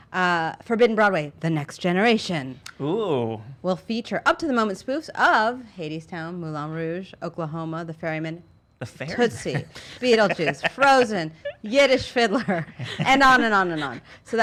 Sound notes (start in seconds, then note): 8.8 laughs